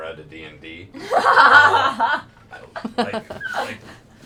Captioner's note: laughter